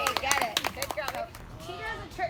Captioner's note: applause